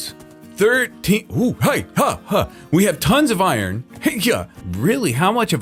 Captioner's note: makes dodging noises